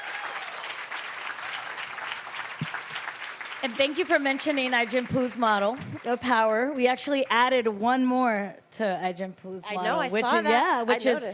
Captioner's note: applause